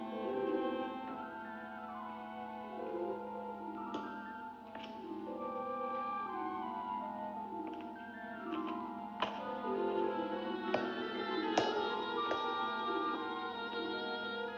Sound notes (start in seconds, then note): 8.5 eerie music; 8.5 footsteps down stairs; 13.1 eerie music